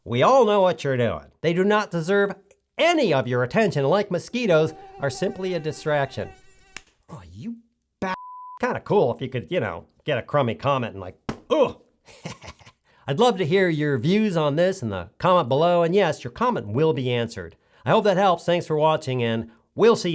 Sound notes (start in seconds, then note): 6.0 mosquito noise; 7.0 smack; 11.3 smack